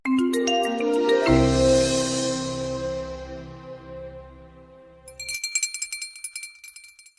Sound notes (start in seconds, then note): 0.0 bright music; 5.0 bell ringing